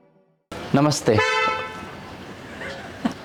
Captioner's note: Honks; laughs